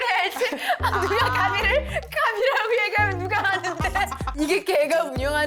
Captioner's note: cracking up